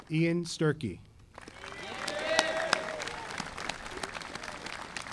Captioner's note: audience applauding